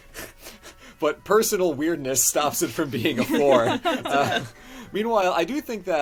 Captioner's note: laugh